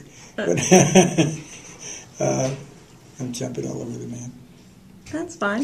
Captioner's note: laughter